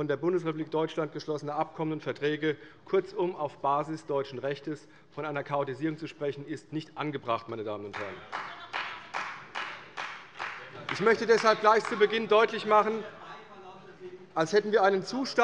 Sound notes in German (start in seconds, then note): 7.9 Beifall bei der CDU - Zurufe von der FDP